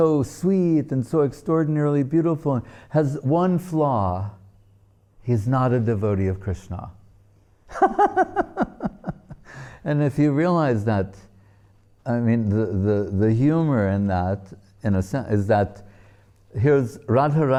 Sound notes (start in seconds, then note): 7.8 laughing